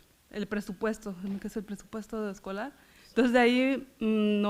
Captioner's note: foreign language